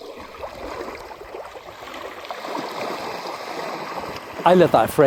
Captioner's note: waves splashing on the beach